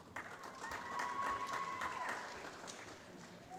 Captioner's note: applause